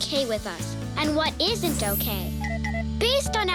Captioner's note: tinkling